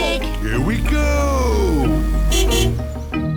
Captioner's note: honks horn